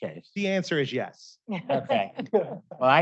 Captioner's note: laughter